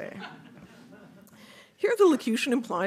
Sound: audience laughing

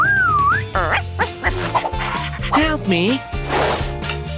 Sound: whistling; groans

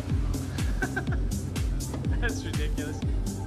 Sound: cameraman laughing

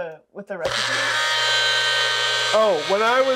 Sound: mixer whirring

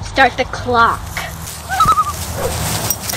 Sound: loon call

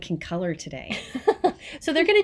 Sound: laughs

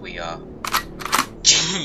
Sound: cocks shotgun

